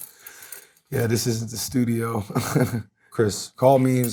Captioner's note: chuckles